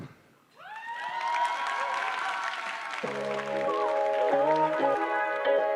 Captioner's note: applause